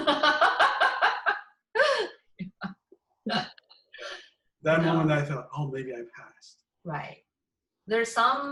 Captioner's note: laugh